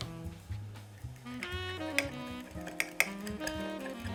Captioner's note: whisking